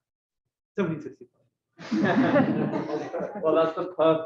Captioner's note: laughter